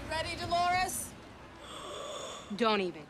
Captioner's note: gasps